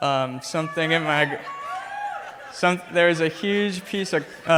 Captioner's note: crowd cheers